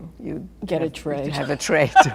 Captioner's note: laughs